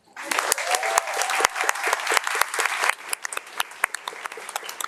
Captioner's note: audience applauding